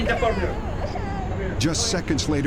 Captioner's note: child crying